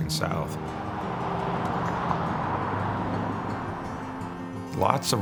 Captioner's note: cars driving